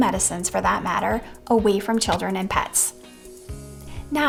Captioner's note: door clacking